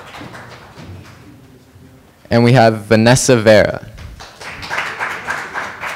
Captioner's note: applause